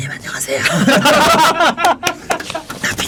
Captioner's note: laughing